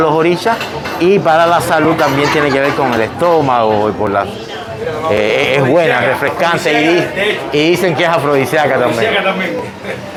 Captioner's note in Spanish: risas